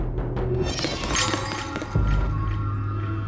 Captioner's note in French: Son de pas